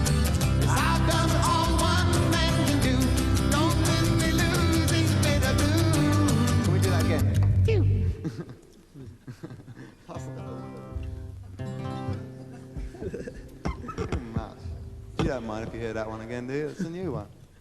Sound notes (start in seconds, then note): 4.1 stumbles on words; 7.9 laughs; 12.1 laughs